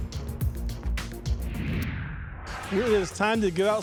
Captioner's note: air whooshing